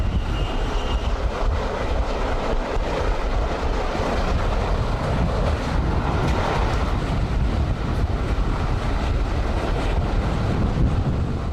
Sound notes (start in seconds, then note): 4.4 train passing